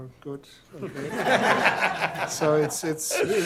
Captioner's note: laughter